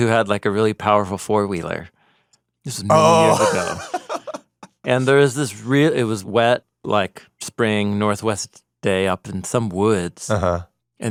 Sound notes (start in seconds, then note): 2.9 laughs